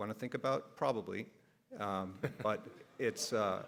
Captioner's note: everybody laughs